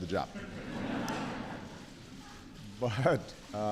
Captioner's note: laughter